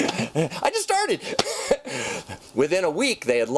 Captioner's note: laughs